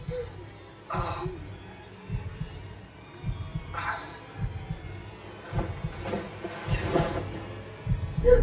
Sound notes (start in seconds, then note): 3.5 grunts